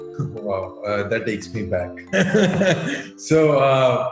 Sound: laughs

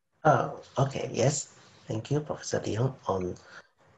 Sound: speaking faintly

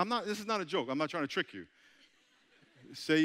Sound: audience chuckling

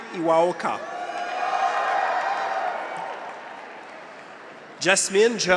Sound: graduates cheer; audience applauds

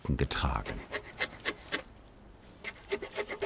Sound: scraping noises

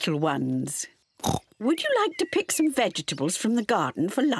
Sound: oinks

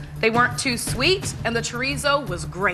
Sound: none

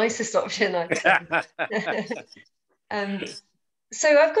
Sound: laughing

